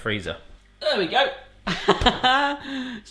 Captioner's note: laughing